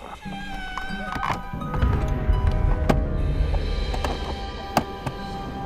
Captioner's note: dramatic music; heavy breathing